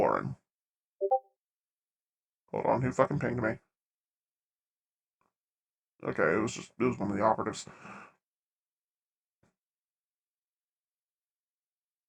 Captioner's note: discord ping